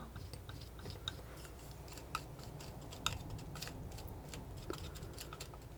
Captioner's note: scratching